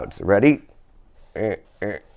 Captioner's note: zig-zag sounds